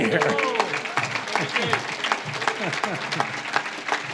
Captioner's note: audience claps